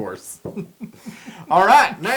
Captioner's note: laugh